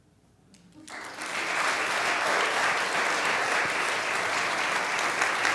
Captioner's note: applause